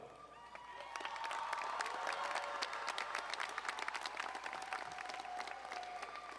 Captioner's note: audience cheering and applauding